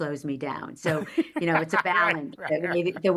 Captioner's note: laughing